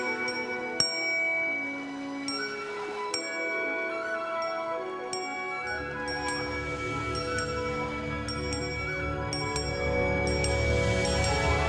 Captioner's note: ringing bell